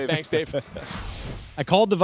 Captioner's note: whoosh